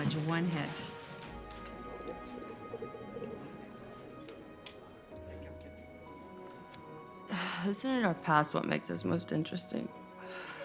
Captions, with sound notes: One hit. [pipe gurgling] Isn't it our past what makes us most interesting?